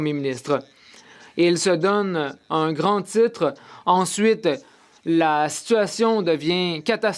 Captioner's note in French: voix de l'interprète